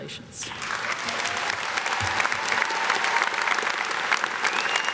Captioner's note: audience claps